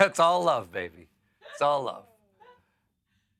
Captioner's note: laughter